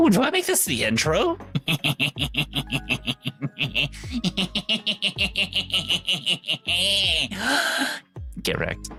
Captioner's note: evil snickering